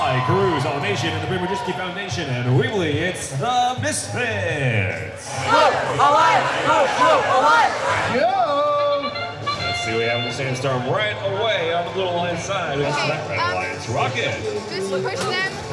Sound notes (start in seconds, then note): 8.7 race horn blows